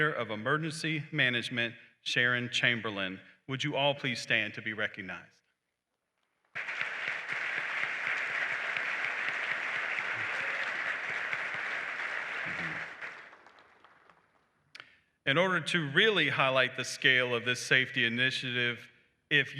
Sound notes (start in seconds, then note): 6.5 applause